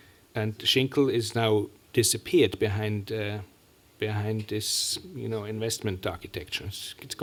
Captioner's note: german